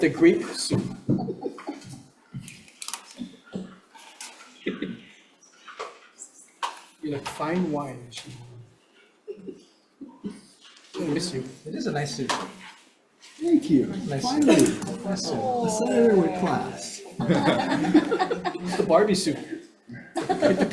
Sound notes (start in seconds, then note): 18.0 committee laughs